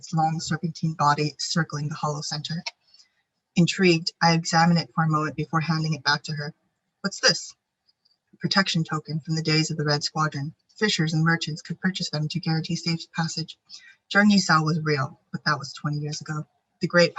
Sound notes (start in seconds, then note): 14.3 speaking foreign language